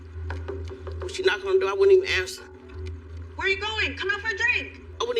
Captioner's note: knockg on door